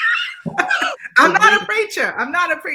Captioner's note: laughs